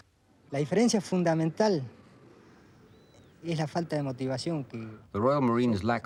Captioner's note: man speaking in foreign language